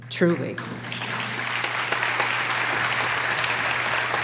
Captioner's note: applause